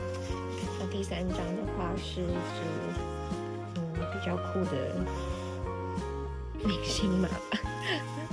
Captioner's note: laughs